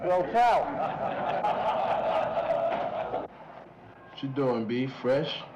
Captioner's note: laughter